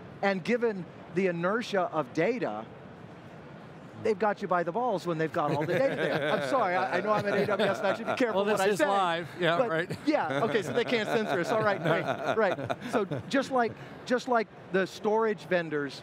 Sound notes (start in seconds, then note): 6.0 laughing